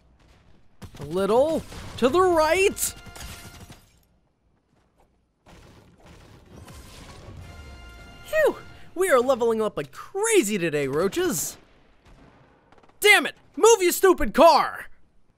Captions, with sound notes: (gunshots) A little...to the right... (weapon clangs) Phew! We're leveling up like crazy today Roaches! Damn it! Move your stupid car!